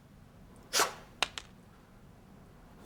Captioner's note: bottle top falling